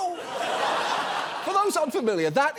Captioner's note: audience laughs